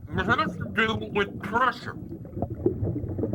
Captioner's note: gurgling